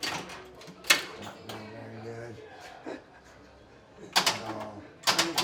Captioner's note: chattering; knob clattering